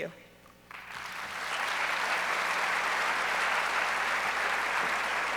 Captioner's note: audience applauds